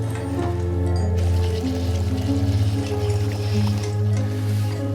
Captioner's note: blood dripping